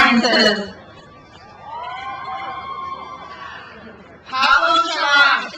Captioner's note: crowd cheers